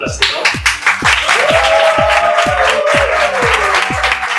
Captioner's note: applause